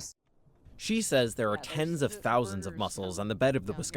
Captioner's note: voice-over